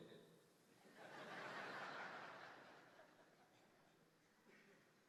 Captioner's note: audience laughing